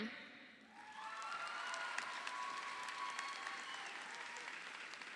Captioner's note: audience applauding